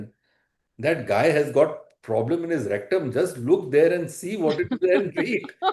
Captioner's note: laughter